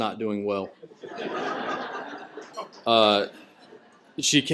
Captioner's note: laughter